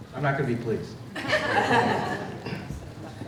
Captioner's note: laughter